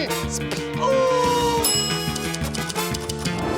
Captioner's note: bell dings